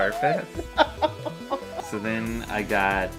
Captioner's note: laughing